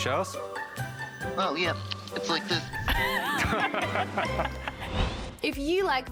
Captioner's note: laughs